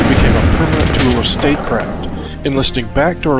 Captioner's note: canon fires